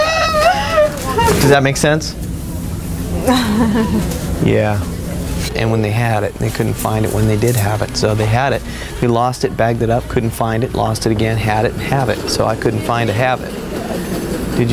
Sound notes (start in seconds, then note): 3.2 giggling